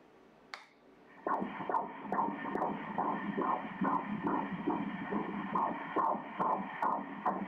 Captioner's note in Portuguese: batimentos cardíacos